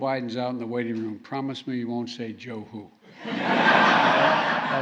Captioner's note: laughter